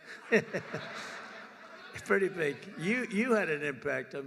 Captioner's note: laughter